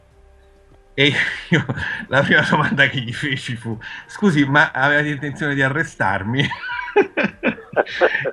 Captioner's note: laughs